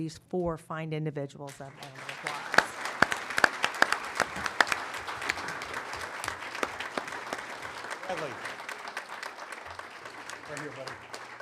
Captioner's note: applause